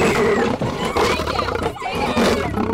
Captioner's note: Screaming; Roaring